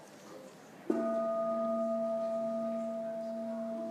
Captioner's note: gong rings